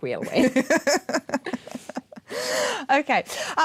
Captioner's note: laughter